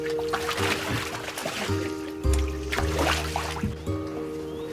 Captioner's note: water splashing